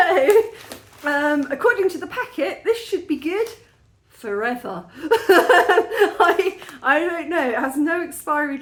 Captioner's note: laughing